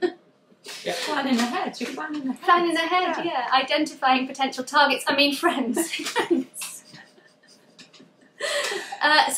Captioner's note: laughs; laughs